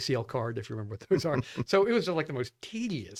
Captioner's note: laughs